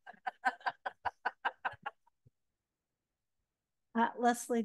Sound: laughter

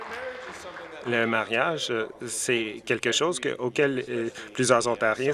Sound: some Applause

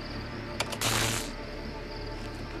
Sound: electric zap

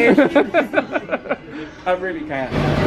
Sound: laughs

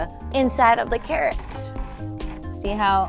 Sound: whirring

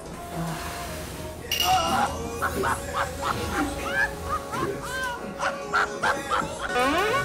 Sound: fails to hold in laughter

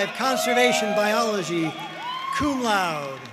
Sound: audience cheering and applauding

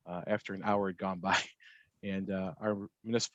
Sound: chuckles

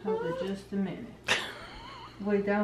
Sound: laughter

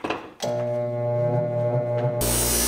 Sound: grinder whirring; grinder grinding

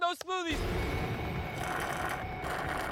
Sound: slurping

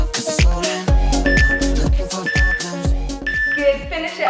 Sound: beeping sound

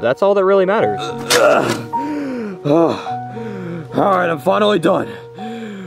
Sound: grunting

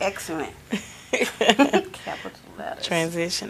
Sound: laughing

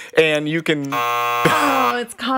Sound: buzzer beeps

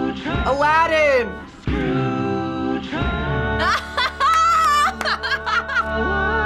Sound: laughs and claps

